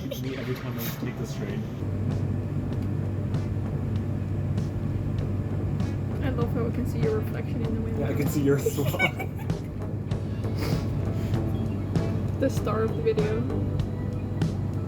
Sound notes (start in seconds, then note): 11.7 laughing